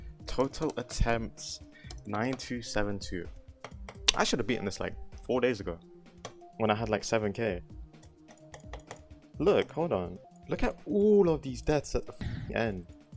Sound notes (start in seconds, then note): 7.9 clicking intensifies